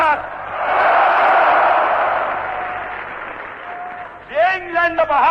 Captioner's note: applause, Screams: "Yes!"